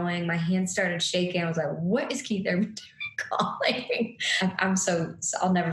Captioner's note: laughing